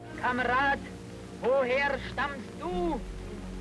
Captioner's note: speaking German